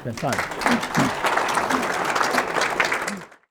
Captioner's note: clapping